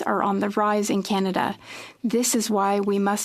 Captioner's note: speaking French